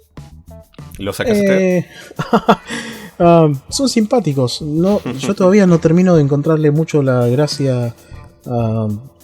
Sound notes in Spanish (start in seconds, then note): 2.1 risas